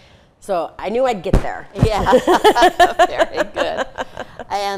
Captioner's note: laughing